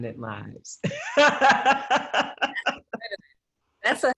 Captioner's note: laughter